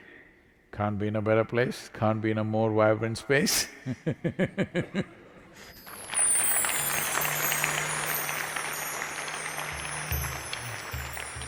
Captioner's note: laughs / Applause